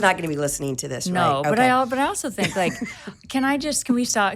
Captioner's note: chuckles